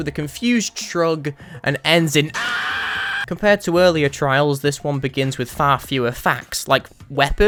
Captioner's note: aaeee